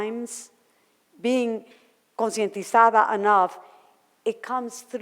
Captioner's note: foreign language